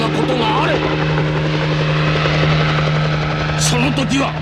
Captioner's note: sound of helicopter rotors